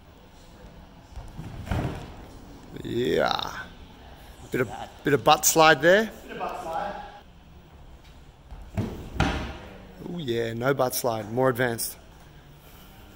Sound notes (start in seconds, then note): 1.8 gentle thud; 9.1 gentle thud